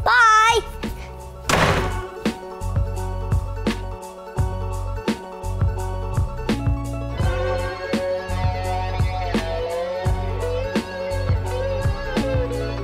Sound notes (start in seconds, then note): 1.4 door slams; 4.2 upbeat music; 7.2 electric guitar solo